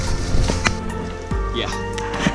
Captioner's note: leaves rustling